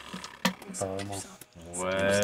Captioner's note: whispering